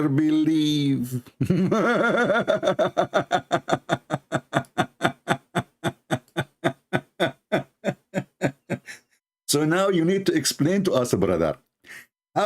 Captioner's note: Ketawa